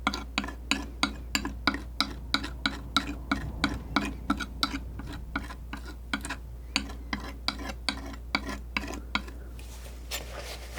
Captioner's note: tapping